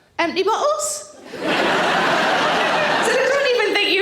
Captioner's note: audience laughing